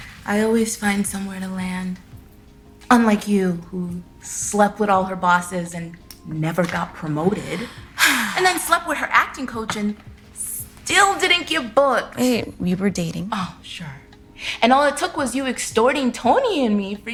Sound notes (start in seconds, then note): 7.5 Kira sighing